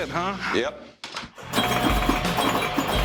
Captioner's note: bells ring